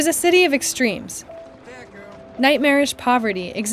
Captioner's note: soundbite of archived recording